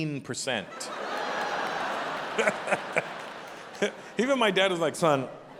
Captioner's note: audience laughing